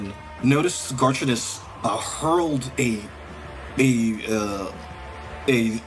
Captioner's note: none